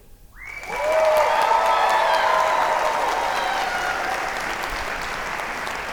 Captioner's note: audience cheer and applaud